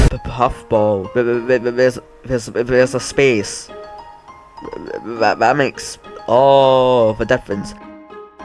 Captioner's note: boom; boom